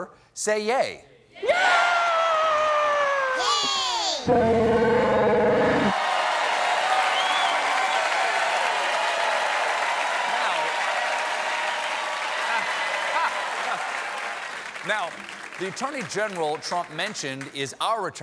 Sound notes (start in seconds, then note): 5.0 cheers and applause